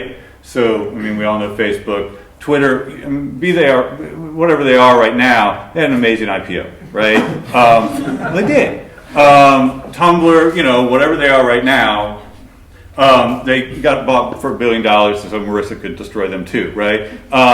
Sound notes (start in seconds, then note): 6.8 laughter